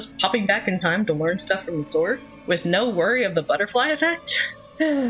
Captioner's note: dreamy sigh